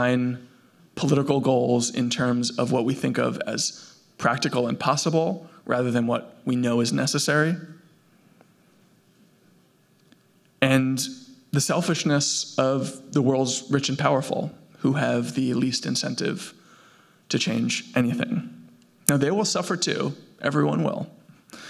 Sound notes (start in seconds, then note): none